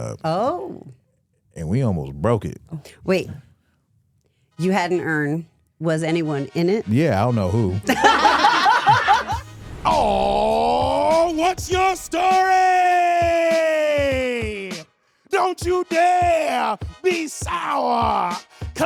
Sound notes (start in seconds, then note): 7.8 hosts laughing